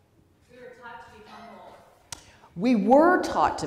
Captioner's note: voiceover